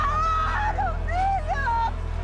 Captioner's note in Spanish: Sollozos